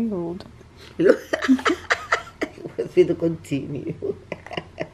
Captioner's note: Jaquie's Mother laughs